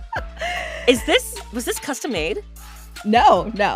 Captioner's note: laughing